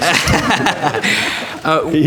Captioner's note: laughter